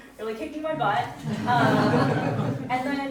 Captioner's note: audience chuckling